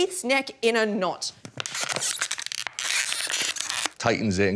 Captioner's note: makes squeaking noise